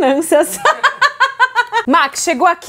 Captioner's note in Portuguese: risos